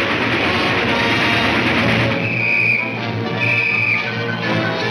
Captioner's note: whistle tweets